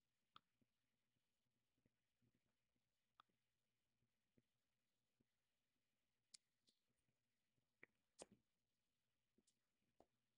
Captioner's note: mouse clicking